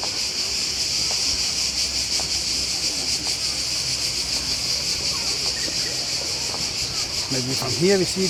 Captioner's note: "Singing" Cicadas